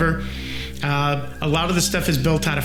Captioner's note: crows cawing